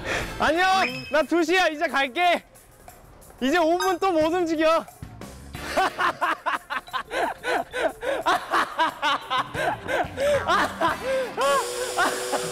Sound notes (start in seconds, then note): 5.6 haha